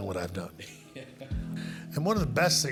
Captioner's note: laughing